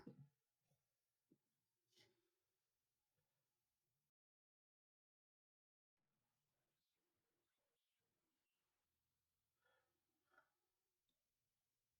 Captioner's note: silence